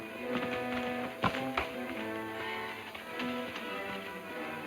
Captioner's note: hooves clopping